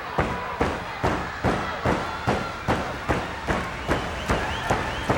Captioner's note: wrestlers stomping